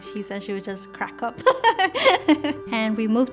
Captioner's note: laughs